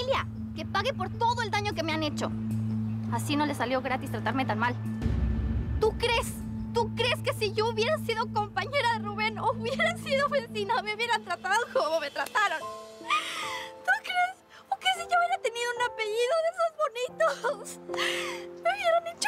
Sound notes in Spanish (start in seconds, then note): 13.7 Sollozos